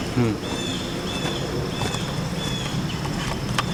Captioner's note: bird Singing